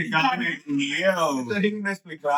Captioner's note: speaking In Foreign Language